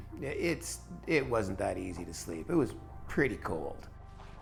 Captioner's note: voiceover